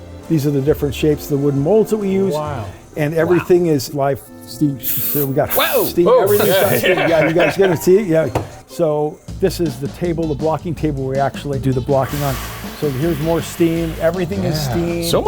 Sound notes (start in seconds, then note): 4.7 steam hissing; 5.5 laughing; 9.3 upbeat music; 12.0 steam hissing